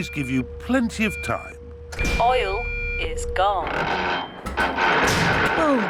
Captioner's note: creaking